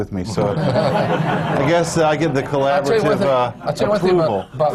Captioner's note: laughter